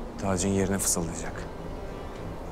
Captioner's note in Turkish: none